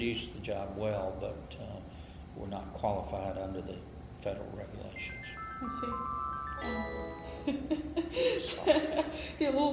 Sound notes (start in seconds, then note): 4.9 cell phone rings; 7.4 laughs